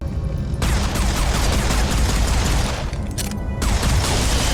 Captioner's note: bullets firing